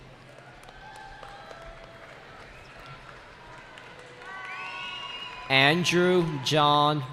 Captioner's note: cheering